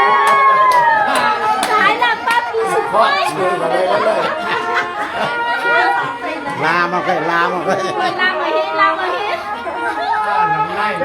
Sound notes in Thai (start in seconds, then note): 0.0 ปรบมือ